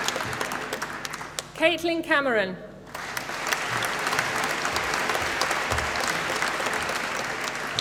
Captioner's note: applause